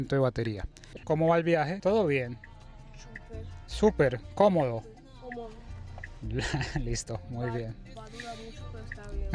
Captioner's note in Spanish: risas